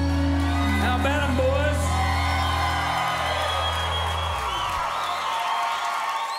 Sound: crowd cheering

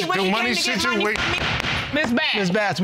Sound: gavel banging

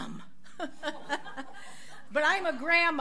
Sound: audience laughs

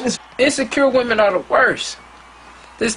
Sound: cheers

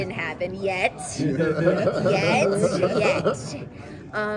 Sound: laughing

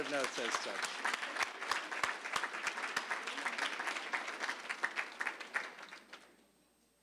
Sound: applause

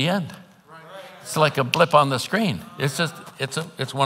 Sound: snaps fingers

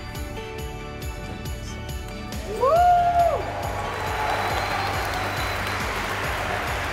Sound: cheering

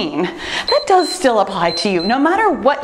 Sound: timer beeps

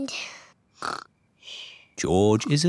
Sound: snores

